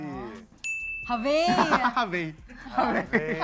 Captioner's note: laughs